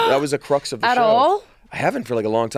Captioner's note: gasps